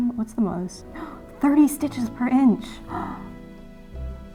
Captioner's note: gasps